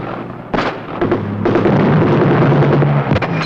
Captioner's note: explosion